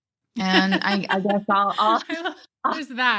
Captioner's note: laughter